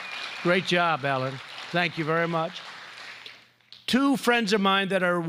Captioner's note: applause